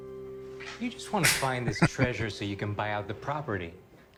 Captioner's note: chuckling